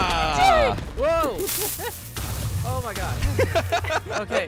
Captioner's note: shouting; multiple explosions; laughing